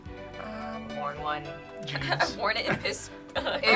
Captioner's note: chuckles